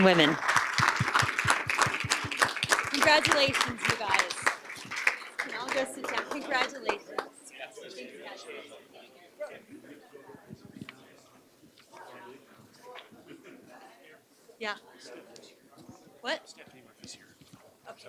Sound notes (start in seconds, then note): 4.2 applause